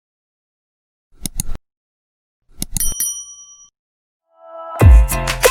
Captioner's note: mouse clicking; bell dinging; upbeat pop music